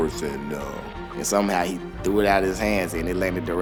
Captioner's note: voiceover